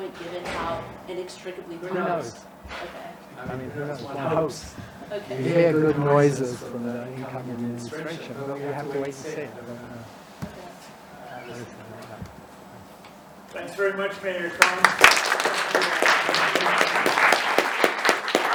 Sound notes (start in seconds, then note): 14.4 audience applauds